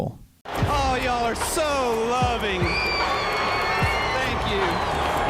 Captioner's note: crowd clamors